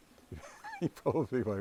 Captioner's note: laughs